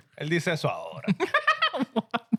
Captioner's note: laughing